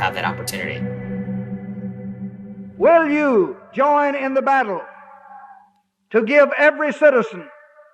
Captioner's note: soundbite of archived recording